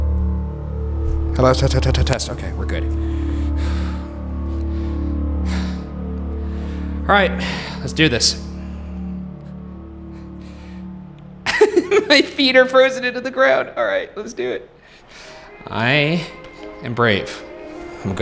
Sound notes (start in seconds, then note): 3.2 breathing heavily; 4.3 deep tense music continues; 11.4 laughing